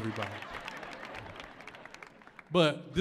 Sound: audience laughs

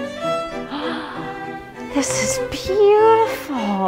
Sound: elegant violin music; gasps

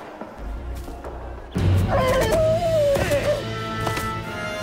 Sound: whinnying

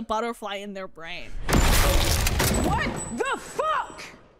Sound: loud gunshots blasting; yells loudly

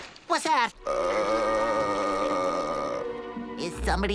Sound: moaning

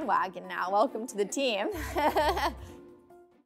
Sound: laughing

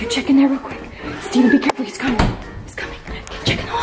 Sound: door bangs

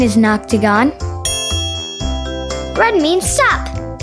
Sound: bell dings

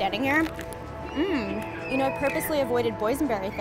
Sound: grunts with satisfaction

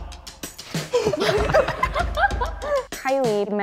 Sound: group laughs

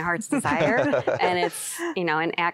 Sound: laughter

